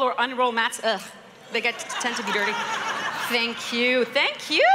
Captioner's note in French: Rires